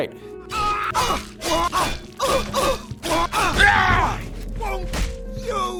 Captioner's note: sound of sword clanging and yells